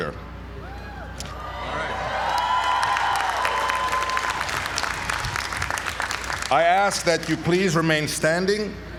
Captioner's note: applause